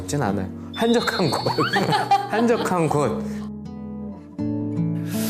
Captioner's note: ㅎㅎㅎㅎㅎㅎㅎ